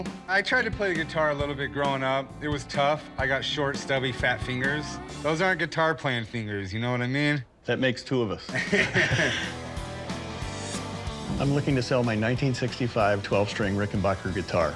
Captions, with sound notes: I tried to play the guitar a little bit growing up. It was tough. I got short, stubby, fat fingers. Those aren't guitar playing fingers. You know what I mean? - That makes two of us. [laughter] I'm looking to sell my 1965 12-string Rickenbacker guitar.